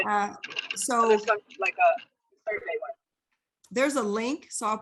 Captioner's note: faintly speaking